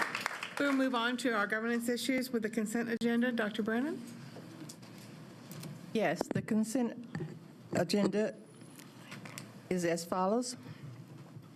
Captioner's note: applause